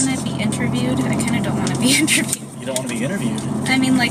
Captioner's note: laughs